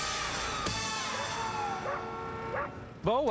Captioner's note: dog barks